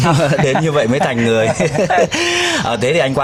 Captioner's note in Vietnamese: tiếng cười